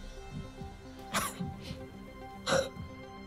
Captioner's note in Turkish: Öksürüyor